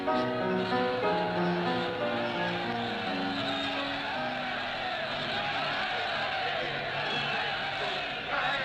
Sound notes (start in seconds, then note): 3.2 cheering crowd drowns out piano